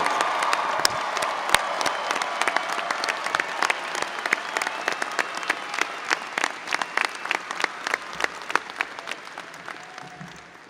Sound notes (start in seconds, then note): 0.1 audience applauding and cheering; 2.2 faculty applauding